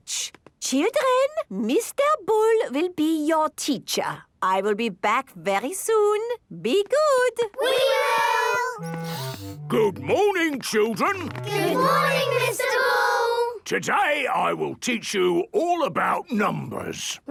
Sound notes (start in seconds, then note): 9.2 sniffs